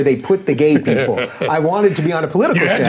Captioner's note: chuckling